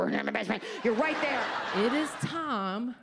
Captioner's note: audience laughs